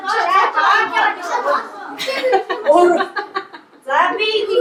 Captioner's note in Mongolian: Инээд